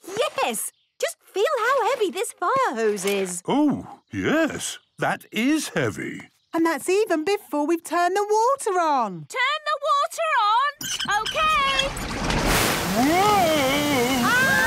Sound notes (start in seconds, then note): 10.7 wheel squeaking; 13.2 children laughing